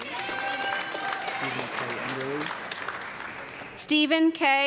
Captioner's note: audience clapping and loud cheering